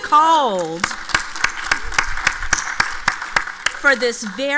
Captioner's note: audience applauds